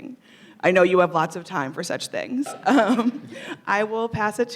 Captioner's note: chuckling